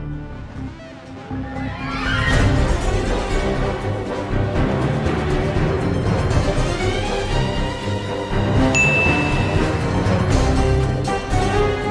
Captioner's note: phone dings